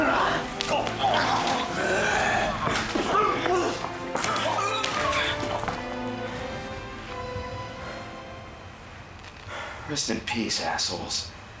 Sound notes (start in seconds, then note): 4.2 grunting